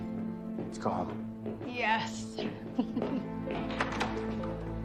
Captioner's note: chuckling